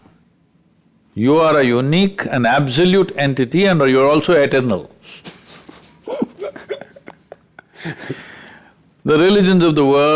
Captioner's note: both Laugh